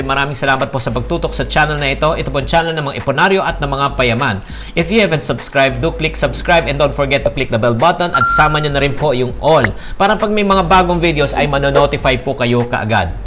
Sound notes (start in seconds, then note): 8.1 bell